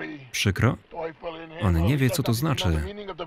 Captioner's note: speaking in foreign language